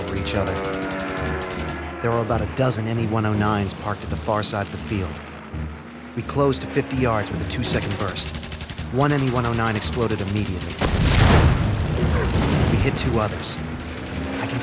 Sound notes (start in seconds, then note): 0.0 guns firing; 0.1 plane engine roaring; 10.8 plane explodes